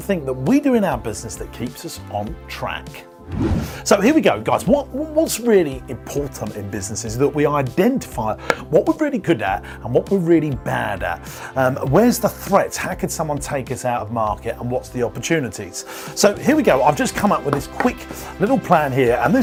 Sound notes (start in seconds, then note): 3.2 whoosh